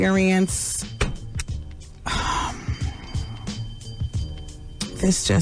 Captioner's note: sighs